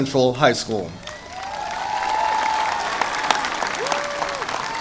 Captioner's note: audience applauding